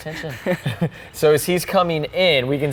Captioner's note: chuckles